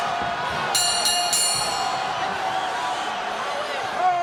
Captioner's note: bell rings